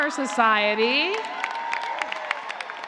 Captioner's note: cheers and applause